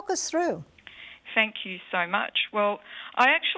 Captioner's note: voiceover